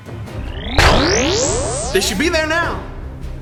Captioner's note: gauntlet activates